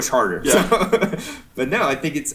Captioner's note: chuckling